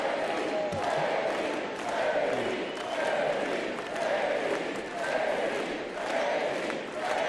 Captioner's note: applause